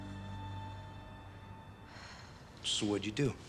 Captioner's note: sighs